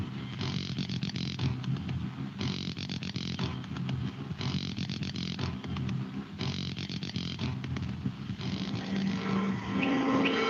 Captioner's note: beeping